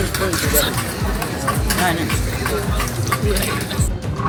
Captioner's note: still chewing